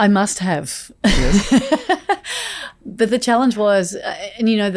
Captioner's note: Layne laughs